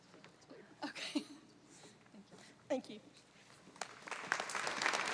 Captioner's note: laughter; applause